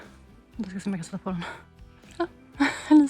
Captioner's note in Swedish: skratt